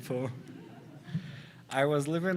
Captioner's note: audience laughs